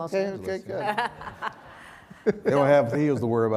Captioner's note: laughter